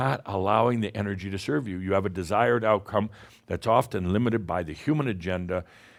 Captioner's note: none